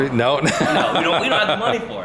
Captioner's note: laughter